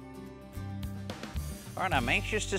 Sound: none

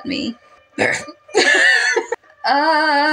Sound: growl; both Laugh

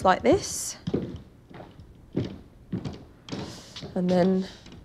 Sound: footsteps plodding

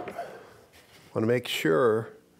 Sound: none

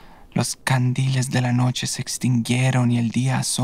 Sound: none

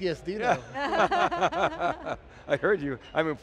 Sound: all laughs

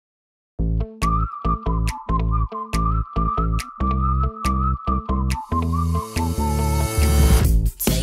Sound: whistling

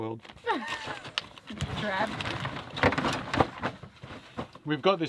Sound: chuckles

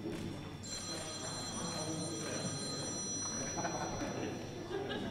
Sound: phone rings

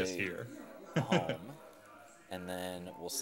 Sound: chuckling

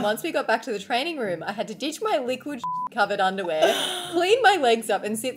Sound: beep

